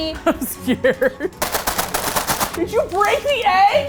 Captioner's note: laughing; plastic crinkles loudly